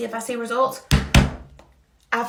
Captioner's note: bangs on the table